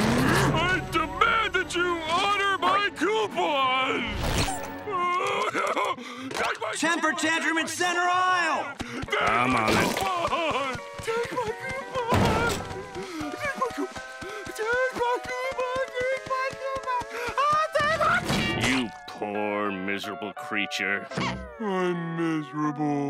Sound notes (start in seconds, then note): 4.9 crying